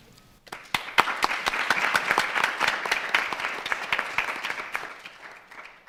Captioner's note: audience and panel applauding